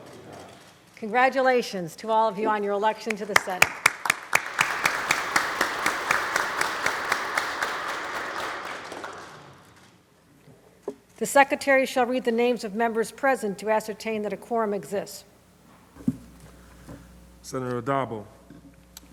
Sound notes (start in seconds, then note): 3.1 applause